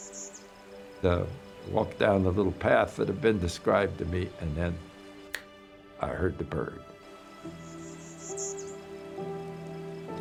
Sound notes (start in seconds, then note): 5.3 finger snapping; 7.5 Bachman's Warbler calling